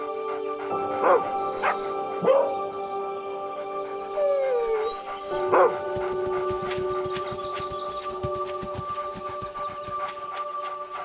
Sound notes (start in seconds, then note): 0.1 dogs barking and whining; 5.0 paws and footsteps thumping; 10.8 ethereal music